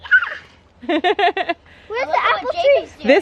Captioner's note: kid squeals